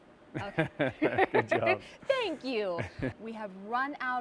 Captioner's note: laughter